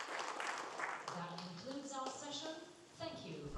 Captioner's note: applause